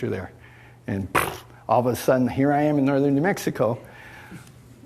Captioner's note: imitates bang